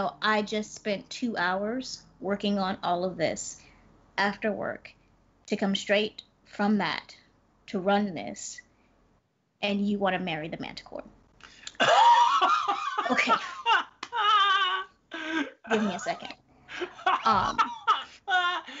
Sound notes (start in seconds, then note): 12.1 Brennan laughing